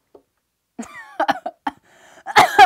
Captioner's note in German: Hustet; Hustet noch mehr